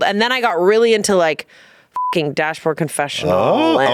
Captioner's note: beep